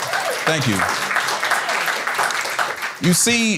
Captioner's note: applause